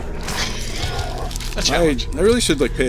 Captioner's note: laughing